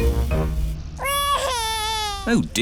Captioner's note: crying